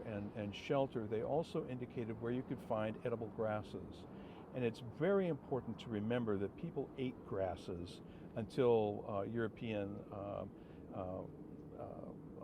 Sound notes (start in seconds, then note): none